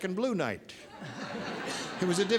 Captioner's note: laughter